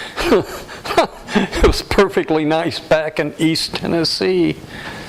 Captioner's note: laughter